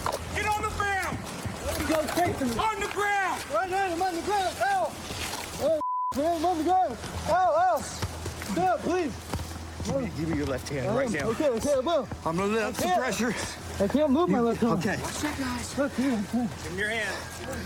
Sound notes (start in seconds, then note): 15.6 muttering